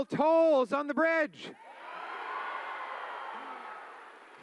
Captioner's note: cheering